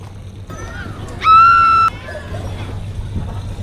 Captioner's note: scream